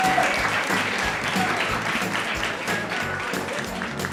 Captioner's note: applauding